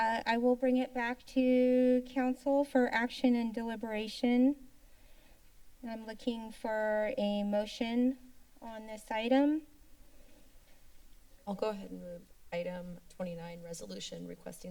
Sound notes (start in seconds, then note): 5.2 inhales; 9.6 silence